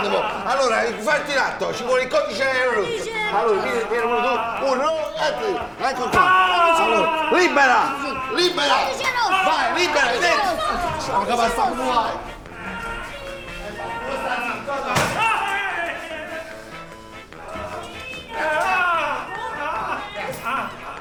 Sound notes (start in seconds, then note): 0.0 slap on the patient, who moans loudly; 6.1 patient shouts in pain; 11.8 patient shouts in pain; 14.6 stretcher bumps into door, patient screams; 18.8 loud shouts of pain